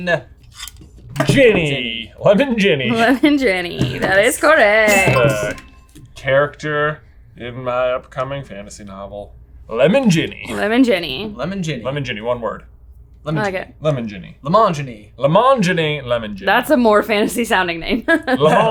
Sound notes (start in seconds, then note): 2.9 chuckling; 4.8 bell dings; 18.0 laughing